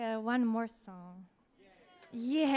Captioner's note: audience applauds